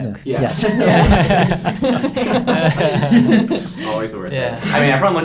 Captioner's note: everyone laughing